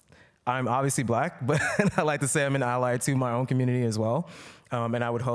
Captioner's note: laughter